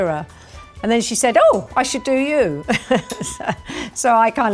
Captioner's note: chuckles